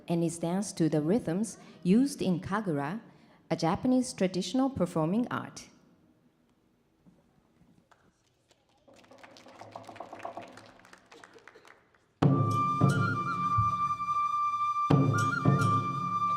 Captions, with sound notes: and is dance to the rhythms used in Kagura, a Japanese traditional performing art. [audience clapping] [calming Japanese folk music]